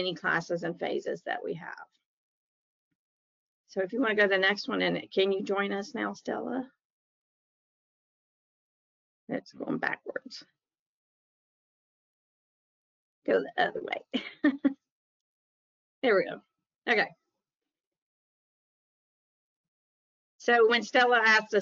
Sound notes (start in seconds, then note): 14.2 chuckles